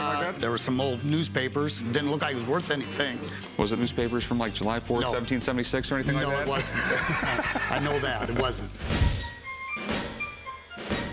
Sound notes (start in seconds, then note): 6.2 laughs